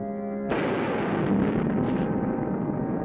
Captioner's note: loud thunderclap